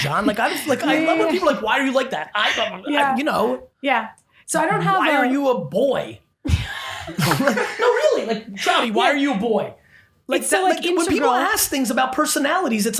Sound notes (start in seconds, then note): 7.0 laughing